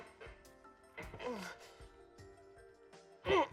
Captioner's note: grunting